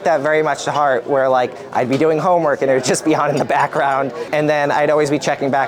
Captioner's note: laughs